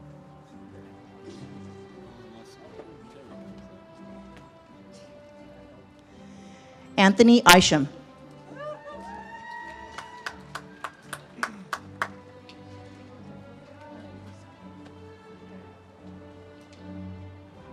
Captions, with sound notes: Anthony Isham. (audience cheers and claps)